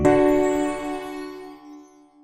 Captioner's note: chimes